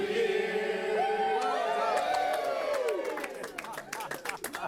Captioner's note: cheering